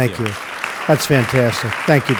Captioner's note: applause